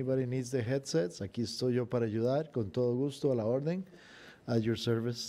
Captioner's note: speaking in foreign language